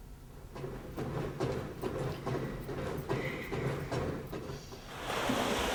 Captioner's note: gym machines whirring; pool water splashing